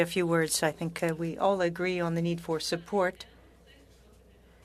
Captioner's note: speaking French